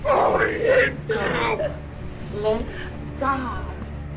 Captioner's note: Bethany growling